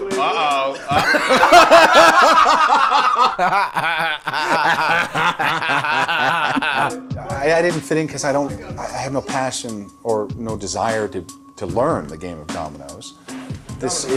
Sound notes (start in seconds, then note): 0.0 laughing